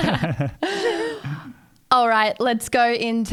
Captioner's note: everyone laughing